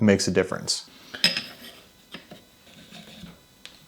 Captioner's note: tool clinking; tool whirling